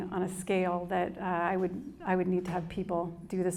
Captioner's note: none